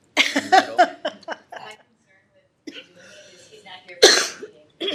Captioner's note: laughter